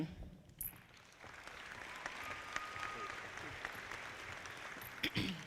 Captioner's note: audience clapping